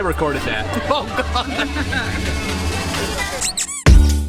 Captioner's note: laughing